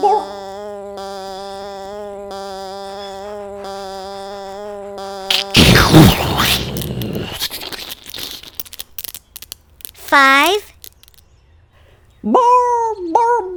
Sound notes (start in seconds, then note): 5.4 explosion